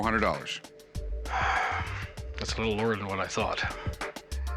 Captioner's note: sighs